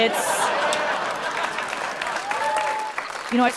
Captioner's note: people laughing; people clapping